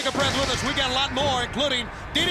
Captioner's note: crowd chatter